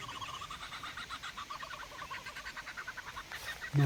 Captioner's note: strange birdsong